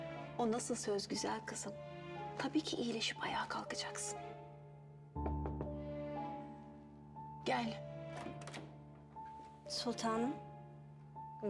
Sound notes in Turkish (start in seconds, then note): 5.2 Kapı vurma sesi; 8.1 Kapı açılma sesi